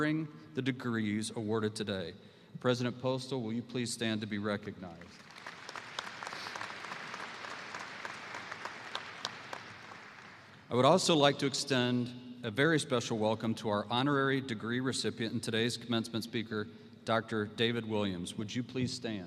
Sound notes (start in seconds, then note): 9.5 applause